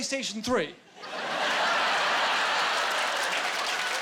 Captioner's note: laughing